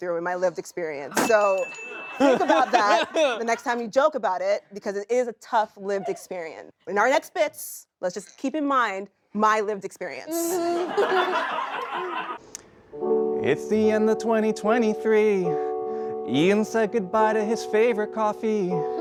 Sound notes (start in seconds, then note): 10.4 laughter